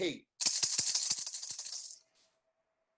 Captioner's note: rattles